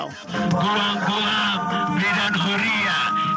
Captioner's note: calling over loudspeaker from car